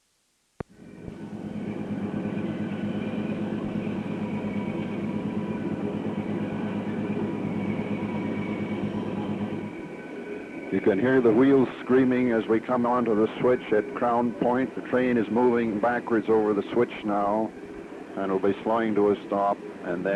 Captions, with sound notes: [Sound of train moving] You can hear the wheels screaming as we come onto the switch at Crown Point. the train is moving backwards over the switch now. And it will be slowing to a stop, and